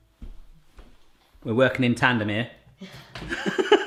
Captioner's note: laughs